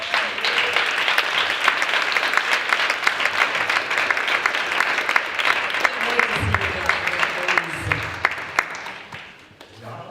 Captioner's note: applause